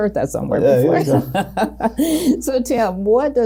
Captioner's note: laughs